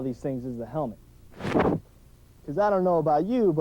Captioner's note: swooshing sound